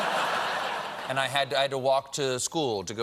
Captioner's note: laughter